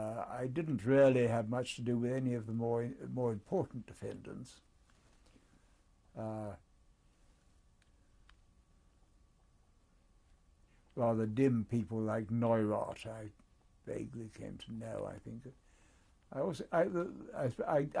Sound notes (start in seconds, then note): 6.6 pauses for 7 seconds